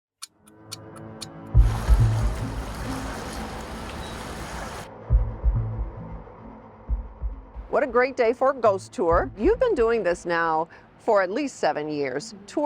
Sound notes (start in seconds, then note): 1.0 clock ticks; 1.0 suspenseful music